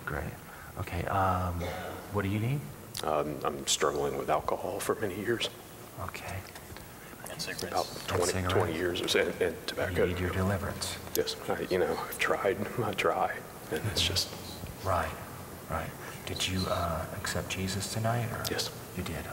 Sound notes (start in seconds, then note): 5.5 weeping